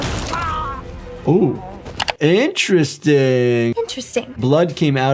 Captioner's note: character grunting; hands thumping; flesh splatting; screen clicking